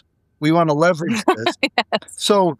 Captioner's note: laughing